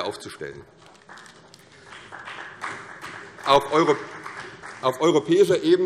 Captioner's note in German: Beifall CDU und BÜNDNIS 90/DIE GRÜNEN